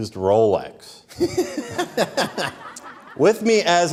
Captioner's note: laughing